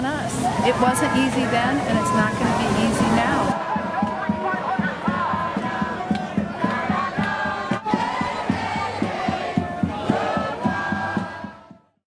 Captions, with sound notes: It wasn't easy then, and it's not gonna be easy now. (Chanting) "Nah nah nah nah, nah nah nah nah, hey hey hey, good-bye"